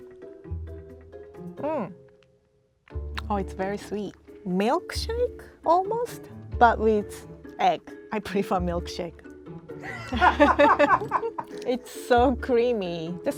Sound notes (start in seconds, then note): 0.1 playful music; 9.8 laugh